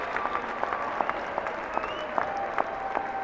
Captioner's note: applauding